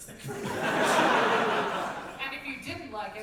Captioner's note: audience laughter